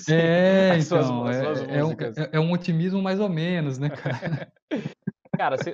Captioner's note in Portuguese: risos